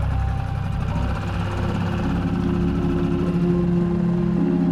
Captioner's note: boat whirring